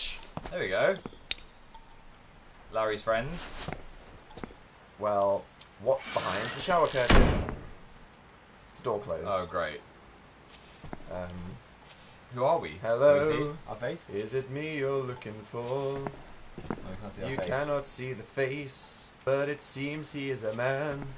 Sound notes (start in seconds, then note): 0.9 torch clicks on; 6.0 door creaks and slams